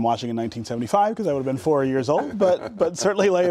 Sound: laughter

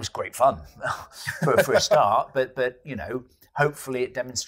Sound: laughs

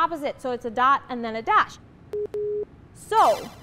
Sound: bip boop

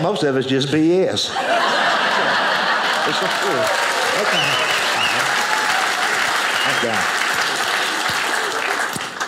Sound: audience applauding

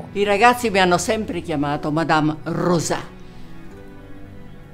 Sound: speaking in Italian

